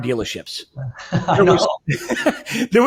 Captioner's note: laughs